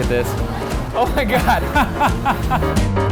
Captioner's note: laughing; whimsical adventure music